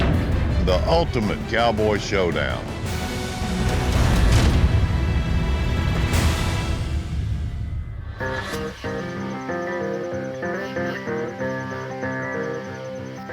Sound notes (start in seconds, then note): 8.1 crickets chirping